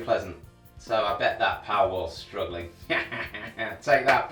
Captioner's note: laughs